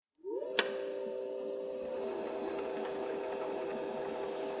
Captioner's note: machinery humming